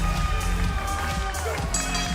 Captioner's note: bell ringing